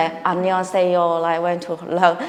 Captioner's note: speaking in Korean